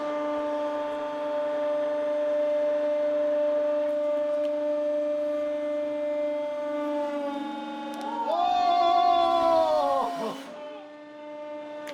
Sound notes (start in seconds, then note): 8.0 both exclaiming